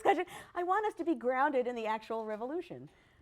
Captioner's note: laughs